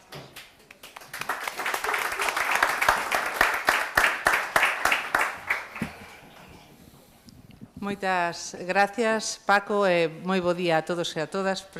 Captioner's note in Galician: Aplauso